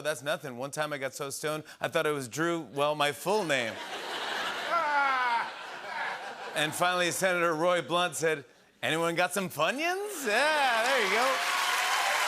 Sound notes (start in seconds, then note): 3.3 laughter; 12.0 cheering and applause